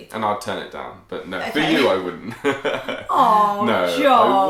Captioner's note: laughs